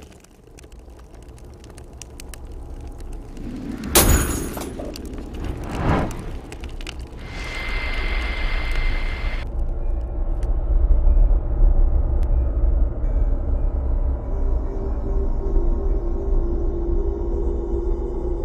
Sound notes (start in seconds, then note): 2.3 ominous music; 3.9 glass breaks